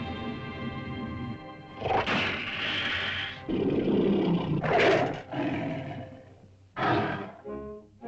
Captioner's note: dramatic music; lizard growls; lizard growls & snarls; dramatic whimsical music